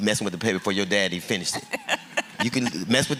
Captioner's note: laughter